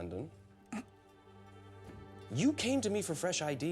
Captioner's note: clears throat